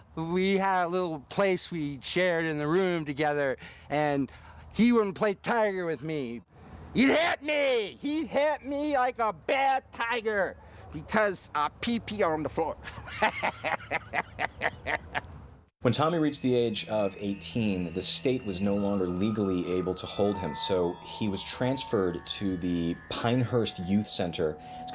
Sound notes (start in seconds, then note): 12.9 laughing